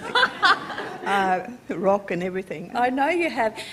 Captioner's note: laughter